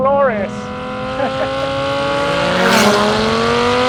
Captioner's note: car zooming